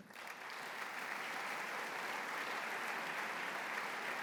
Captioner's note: applause